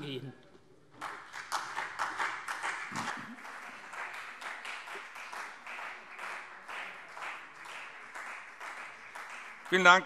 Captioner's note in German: Beifall CDU und BÜNDNIS 90/DIE GRÜNEN